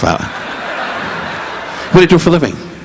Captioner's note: audience laughing